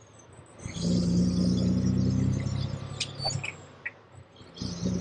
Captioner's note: engine rumbling